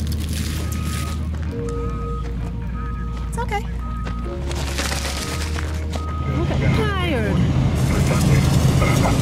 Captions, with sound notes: [Construction vehicle beeps] It's okay. You look tired.